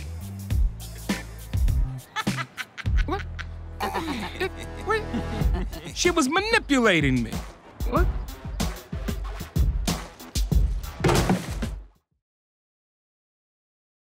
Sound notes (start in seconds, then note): 2.0 laughs; 4.2 laughter